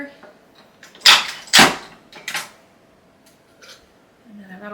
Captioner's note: dispenser clacking